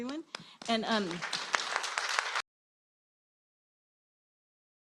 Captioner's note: applause